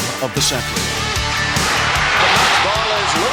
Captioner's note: cheering